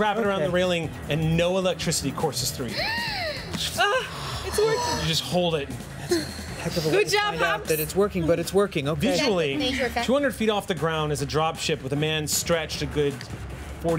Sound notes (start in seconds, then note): 2.7 sighs; 2.8 gasps